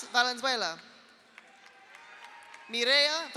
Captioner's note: audience applauds; audience cheers